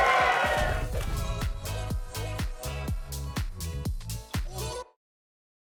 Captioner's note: crowd applauds; graphic whips; text whips